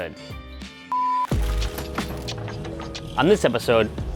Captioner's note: beep